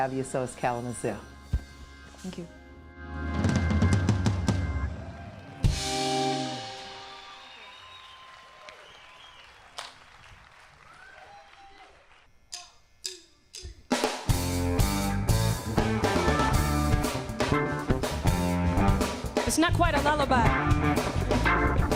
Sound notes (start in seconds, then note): 4.7 audience applauding and cheering